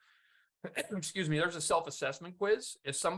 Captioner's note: coughs